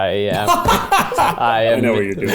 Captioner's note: laughing